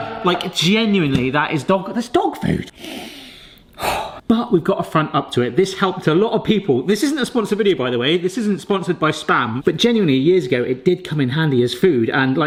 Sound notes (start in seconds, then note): 0.0 euphoric music; 3.8 sniffing